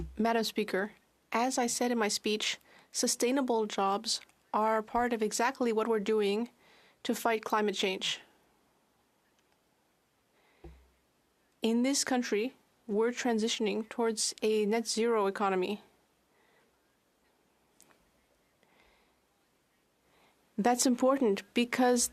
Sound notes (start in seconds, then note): 2.6 speaking French